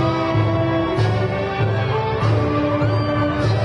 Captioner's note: crowd cheering